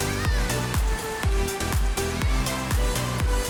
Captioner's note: shouting